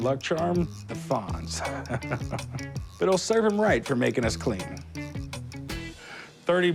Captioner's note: chuckles